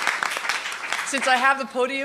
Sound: applause

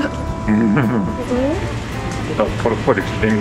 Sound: laughs

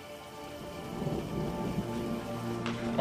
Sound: thunder rumbling

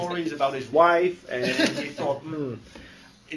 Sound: laughter

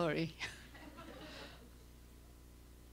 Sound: laughter

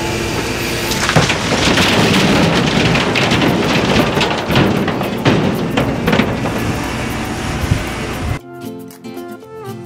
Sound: motor rumbling

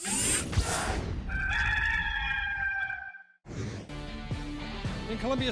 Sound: cock crowing

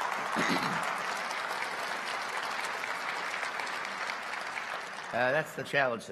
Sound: applause

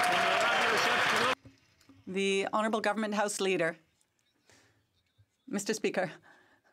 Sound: some Applause

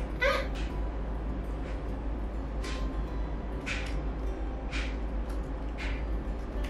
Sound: clock ticking; gentle music; clock ticking

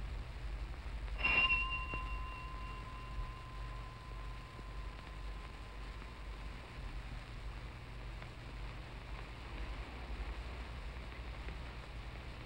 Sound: doorbell ringing

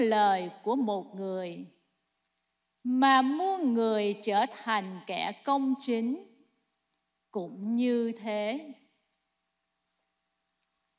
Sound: speaking non-english

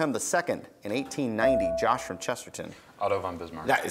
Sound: buzzer beeps

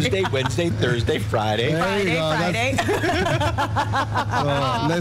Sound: laughter

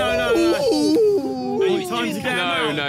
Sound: players groan

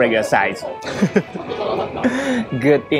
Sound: chuckle

